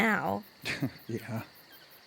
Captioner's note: chuckles